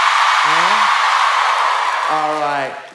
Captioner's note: screaming